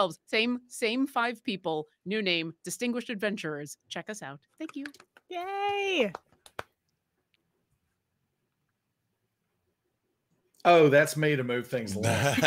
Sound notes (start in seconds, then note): 5.6 clapping